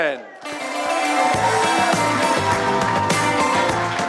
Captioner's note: applause